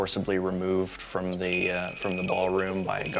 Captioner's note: jingling bells